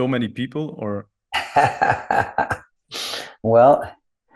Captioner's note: laughs